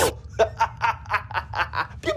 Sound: laughter

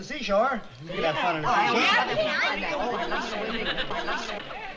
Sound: commotion

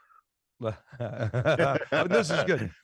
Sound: both laughing

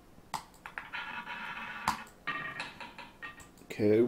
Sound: ball rolling

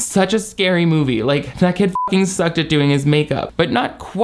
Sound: beep

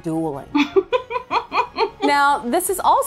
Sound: laughs

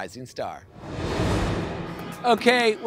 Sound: air whooshing

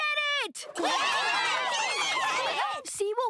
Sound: cheering

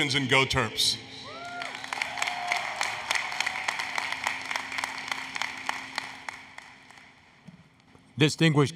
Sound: applause, Cheering

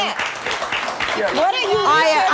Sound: audience clapping

